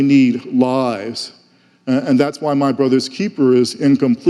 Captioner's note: none